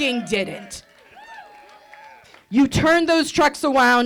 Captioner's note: audience cheering